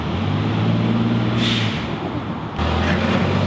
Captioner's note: truck revving